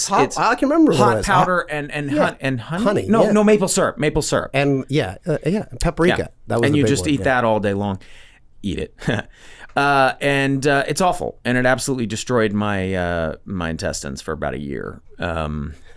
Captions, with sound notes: - I can remember what it was. - It's hot powder and honey? - Honey, yeah. - No, no, maple syrup! Maple syrup! - And yeah. Yeah, Paprika. - That was the big one. - And you just eat that all day long. Eat it. (laughs) And it's awful, and it absolutely destroyed my intestines for about a year.